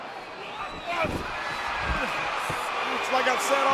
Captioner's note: audience cheering